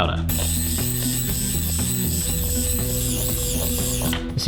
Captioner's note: whisk whirring